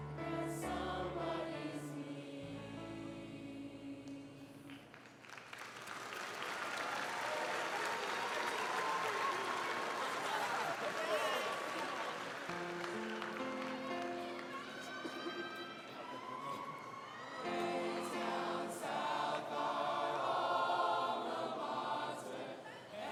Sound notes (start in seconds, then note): 6.4 crowd cheering; 12.6 soft piano playing